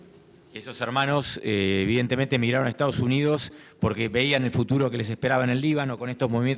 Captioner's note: speaking in foreign language